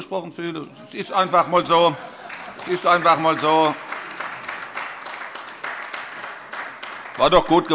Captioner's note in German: Heiterkeit und Beifall AfD und Freie Demokraten